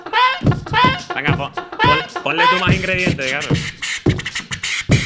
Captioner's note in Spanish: hace beatbox